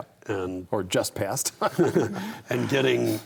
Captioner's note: all laugh